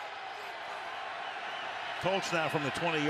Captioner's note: cheers, applause